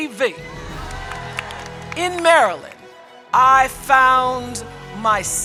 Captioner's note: audience cheering and applauding